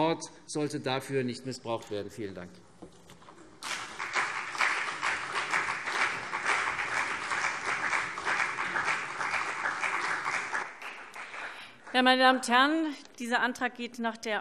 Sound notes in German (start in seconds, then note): 3.6 Beifall CDU